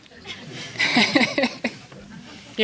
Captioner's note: laughing